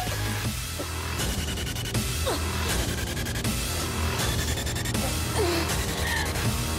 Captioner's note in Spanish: Sonidos al ahogarse